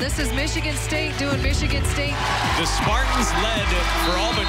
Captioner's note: crowd cheers